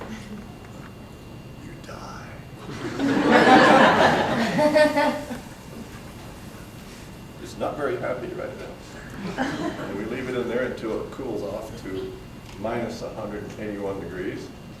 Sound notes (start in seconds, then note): 2.6 audience breaks out in laughter; 9.1 laughter